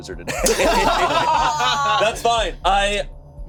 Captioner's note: everyone laughing